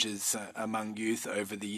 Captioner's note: speaking French